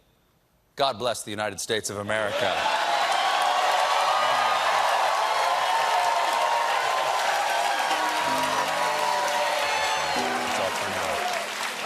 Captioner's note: cheers and applause